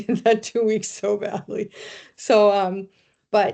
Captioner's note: chuckling